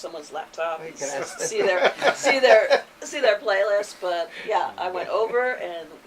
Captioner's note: both chuckle